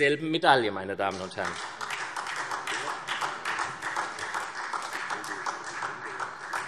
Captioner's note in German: Beifall SPD